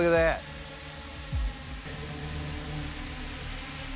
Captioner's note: drones whirring